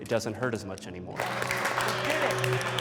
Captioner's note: comics clapping hands